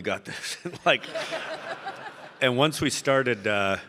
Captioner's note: audience laughing